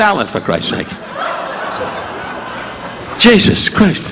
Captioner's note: audience laughing